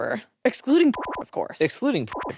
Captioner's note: beep